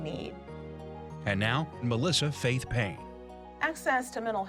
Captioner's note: voiceover